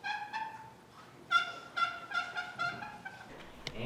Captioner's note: box call clucks